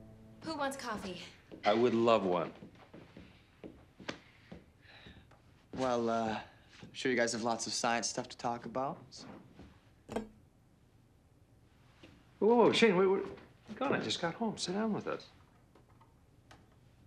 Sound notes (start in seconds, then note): 3.3 footstep